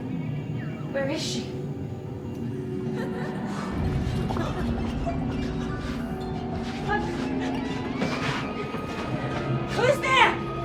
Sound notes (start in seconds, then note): 2.8 woman laughing